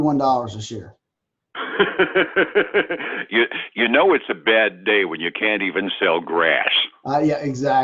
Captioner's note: laughs